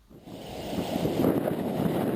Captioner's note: heavy wind blowing